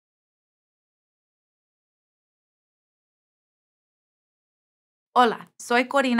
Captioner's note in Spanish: silencio